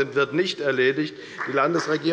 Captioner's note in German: Beifall bei der FDP und Abgeordneten der SPD